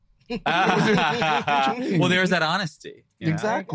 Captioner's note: group laughing